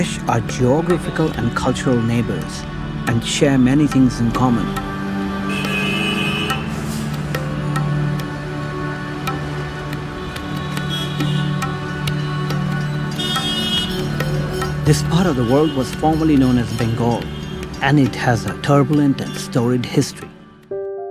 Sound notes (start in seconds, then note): 5.6 horn honks; 11.0 horns honking